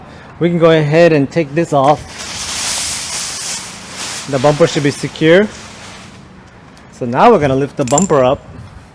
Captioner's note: bubble wrap